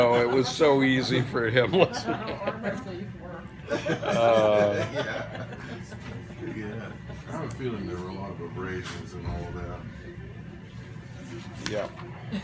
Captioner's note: laughter